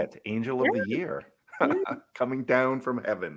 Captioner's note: laughs